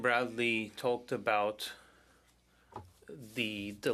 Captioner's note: speaking French